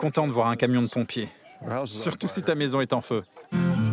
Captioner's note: laughs